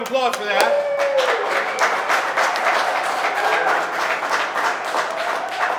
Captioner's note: crowd cheering and applauding